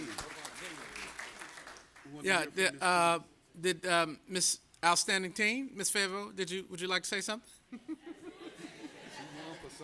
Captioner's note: applause